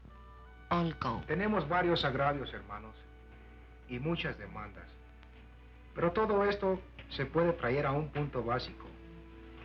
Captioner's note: speaking spanish